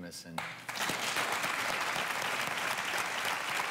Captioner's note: clapping